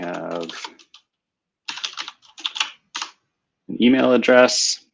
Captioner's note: typing